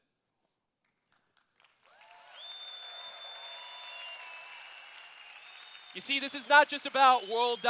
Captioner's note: cheers